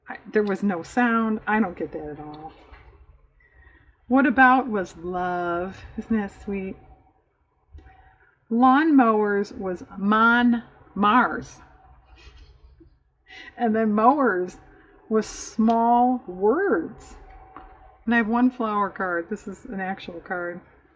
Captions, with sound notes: there was no sound, i don't get that at all "what about" was "love," isn't that sweet? "lawn mowers" was "mon mars" (laughs) and then "mowers" was "small words" and i have one flower card, this is an actual card